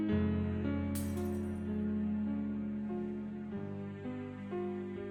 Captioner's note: glass shattering